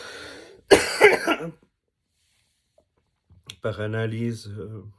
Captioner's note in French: toux